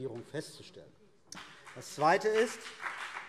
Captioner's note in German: Beifall CDU und BÜNDNIS 90/DIE GRÜNEN